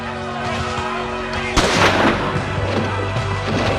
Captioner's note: gun bangs; soldiers chattering